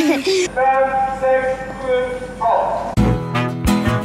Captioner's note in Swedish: man i megafon